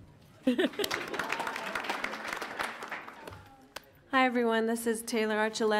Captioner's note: audience laughs; audience applauds